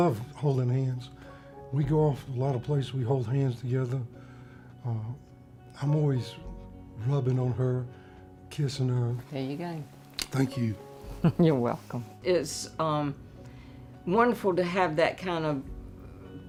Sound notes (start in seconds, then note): 11.6 laughs